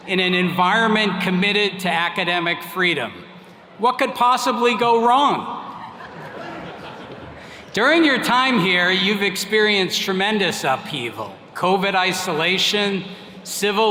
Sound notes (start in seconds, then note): 5.6 attendees laughing